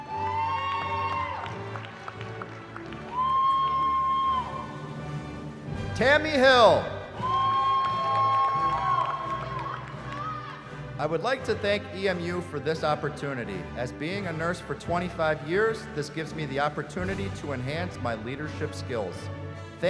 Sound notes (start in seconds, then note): 0.0 cheering; 7.1 cheering